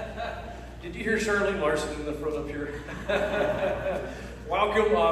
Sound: laughs

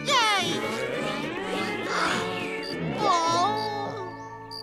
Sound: gasping

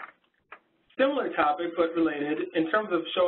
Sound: voiceover

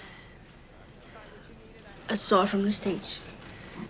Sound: none

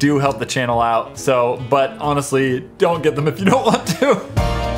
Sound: laughs

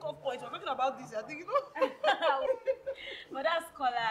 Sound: laughter

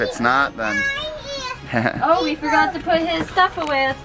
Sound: baby talk

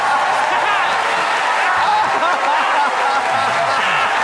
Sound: audience cheering

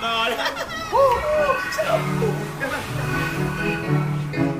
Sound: Carl cheering

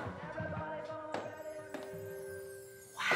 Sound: bells jingling

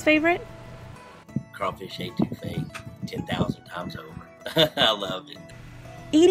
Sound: laughs

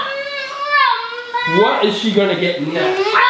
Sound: girl shouting

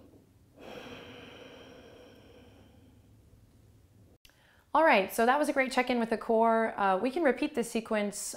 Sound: breath

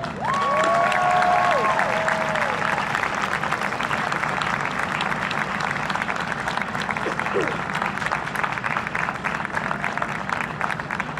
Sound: huge Applause and Cheering

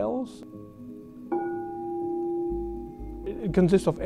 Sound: bell rings

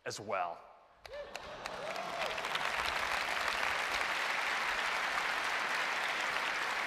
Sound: applause

